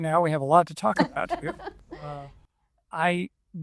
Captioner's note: laughs